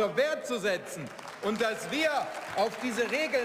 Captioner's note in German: Zwischenruf und Beifall